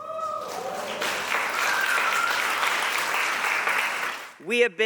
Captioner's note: audience applauding